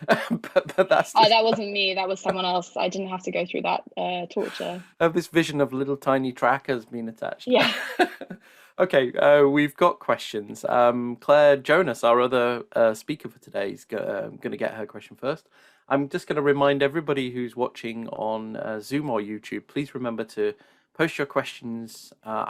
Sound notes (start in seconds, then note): 0.0 laughs; 7.6 laughs